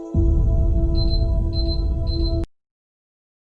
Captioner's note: beeping